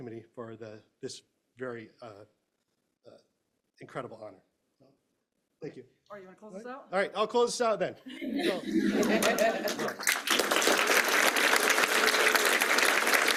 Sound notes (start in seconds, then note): 8.1 laughter; 9.0 applause